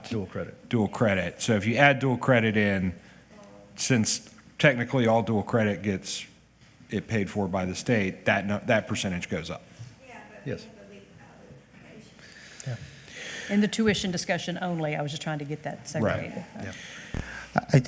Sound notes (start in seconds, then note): 12.4 faintly speaking